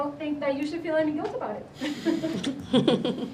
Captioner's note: chuckles